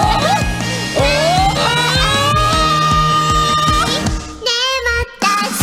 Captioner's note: ooooooooh!